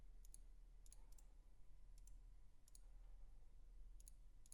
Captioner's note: clicking